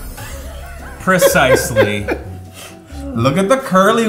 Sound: laughter

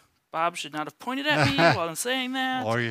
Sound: chuckles

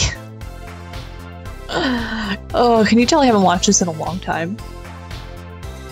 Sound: long sigh

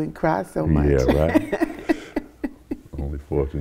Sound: she laughs

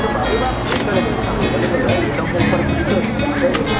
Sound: people chattering; cheerful music

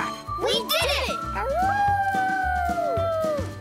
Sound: howling

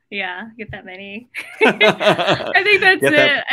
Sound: laugh

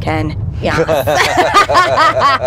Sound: laughs

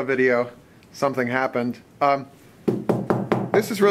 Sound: knocking on tank

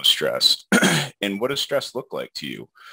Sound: clears throat

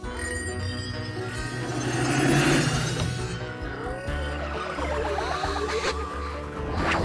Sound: ringing

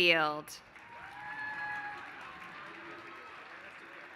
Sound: applause

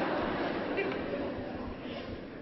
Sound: laughter

